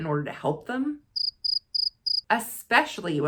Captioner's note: chirping